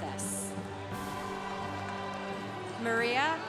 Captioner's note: congregation cheering